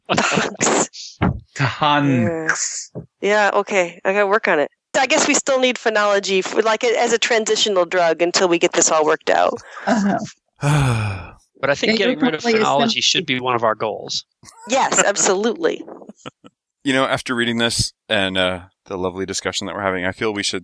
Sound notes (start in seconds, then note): 0.1 laughter; 10.6 sigh